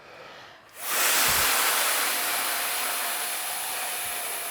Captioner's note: students hissing